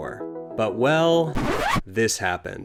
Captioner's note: record scratch